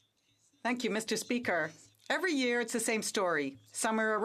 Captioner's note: speaking French